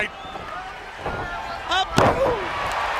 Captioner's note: crowd chatter